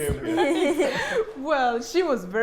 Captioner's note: both laughing